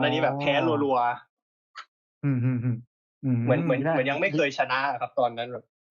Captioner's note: laughs; laughs